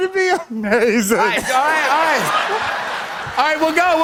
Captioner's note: laughter